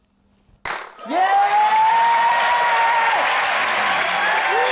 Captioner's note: pop!; cheering, applause